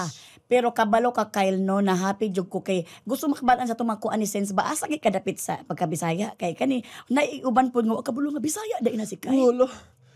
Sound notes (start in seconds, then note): none